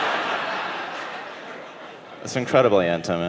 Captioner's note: audience laughing